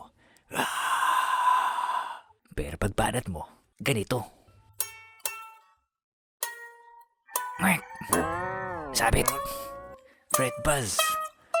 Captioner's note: emulates sound of fans cheering